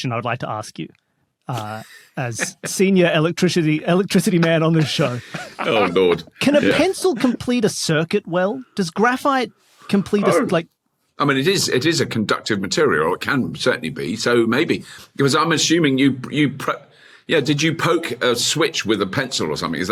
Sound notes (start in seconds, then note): 1.7 wheezes